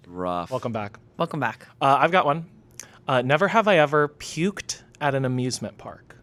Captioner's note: none